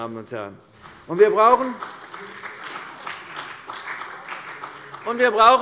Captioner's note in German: Beifall bei der CDU und dem BÜNDNIS 90/DIE GRÜNEN